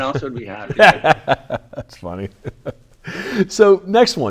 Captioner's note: laughs